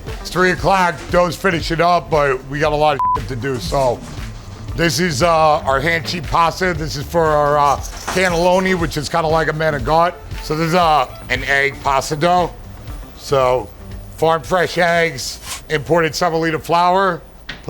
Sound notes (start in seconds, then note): 3.4 beeping